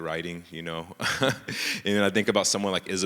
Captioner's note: laughs